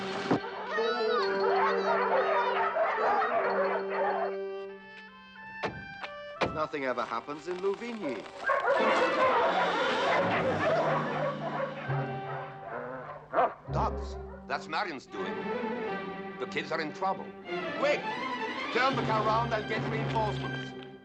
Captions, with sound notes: Come on! Nothing ever happens in Louvigny. [dogs barking] - [growling] - Dogs! That's Marion's doing. The kids are in trouble. Quick, turn the car around and get reinforcements.